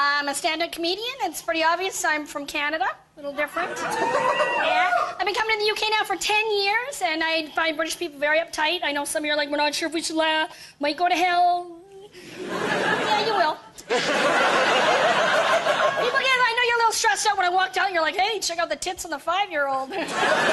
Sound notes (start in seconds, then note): 3.7 cheers; 11.1 laughter